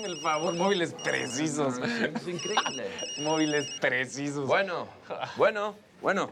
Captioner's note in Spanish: Suena el celular